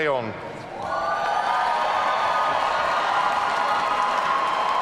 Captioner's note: audience cheering